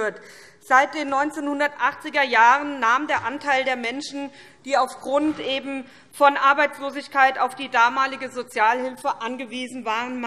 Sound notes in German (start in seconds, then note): none